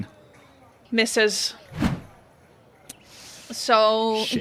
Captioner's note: whoosh